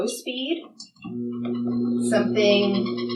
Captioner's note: machine whirring and cranking